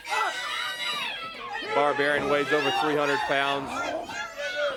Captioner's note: crowd chatter